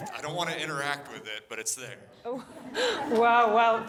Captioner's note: laughter